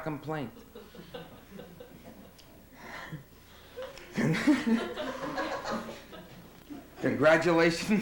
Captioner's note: laughs